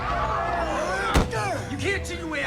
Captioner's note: back thudding